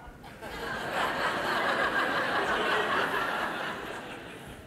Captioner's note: audience laughing